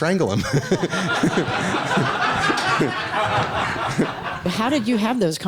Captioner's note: laughing